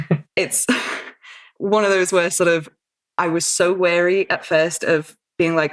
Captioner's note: laughs